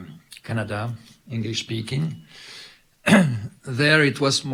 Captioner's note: clears throat